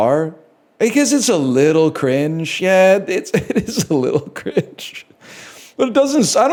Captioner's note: laughs